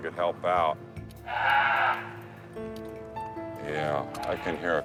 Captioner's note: bear yelping